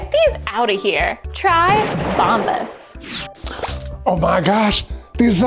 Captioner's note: graphic blasting and zipping